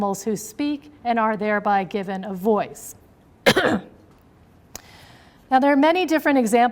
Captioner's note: clears throat